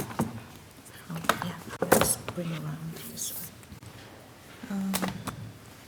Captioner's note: faintly speaking